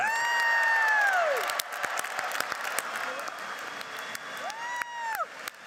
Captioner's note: audience cheers and applauds